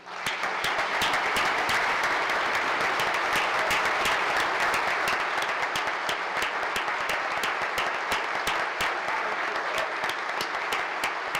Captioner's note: applause